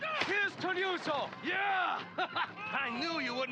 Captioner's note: laughs